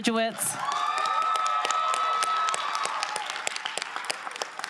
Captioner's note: crowd applauding